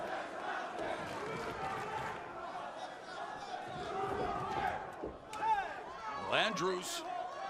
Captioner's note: crowd cheering